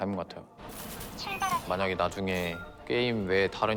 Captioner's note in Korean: 기계 음성